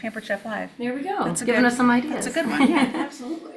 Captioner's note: chuckles